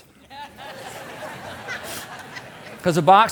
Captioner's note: audience laughing